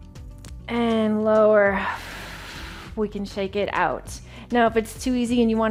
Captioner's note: exhales